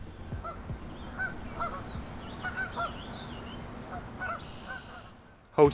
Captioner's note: geese honking